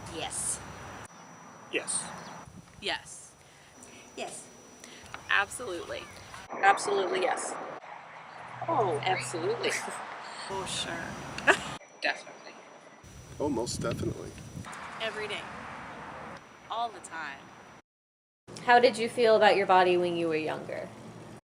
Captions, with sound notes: Yes. ..Yes. Yes. Yes. Absolutely. Absolutely yes. Oh..absolutely. Oh, sure. *laughs* Definitely. Oh most definitely. Every day. All the time. How did you feel about your body when you were younger?